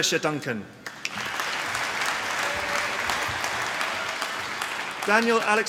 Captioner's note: applause